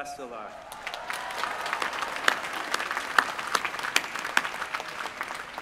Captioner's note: applause